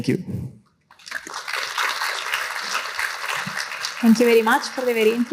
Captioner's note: applause